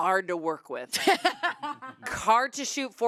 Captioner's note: laughs